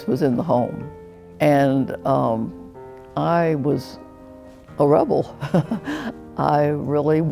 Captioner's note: chuckling